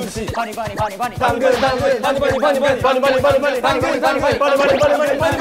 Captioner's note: intense fight-ing